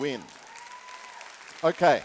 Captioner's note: applause and cheering